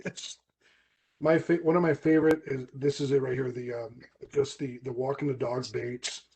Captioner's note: laughs